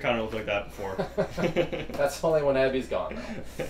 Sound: both laughing

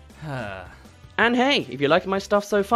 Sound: sigh

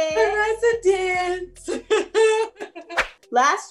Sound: laughs

